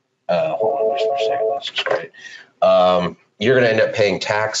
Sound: phone ringing

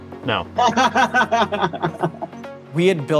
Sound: person laughing

